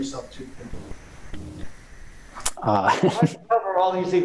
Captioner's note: chuckle